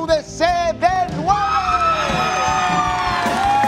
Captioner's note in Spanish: Aplausos